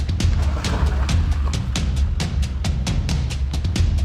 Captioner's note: car engine revs